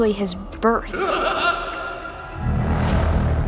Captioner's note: pennywise laughs